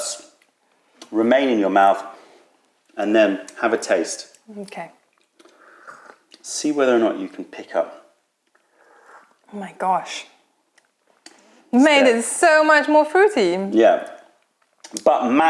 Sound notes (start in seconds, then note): 0.0 chewing; 0.0 swallow; 8.4 sips tea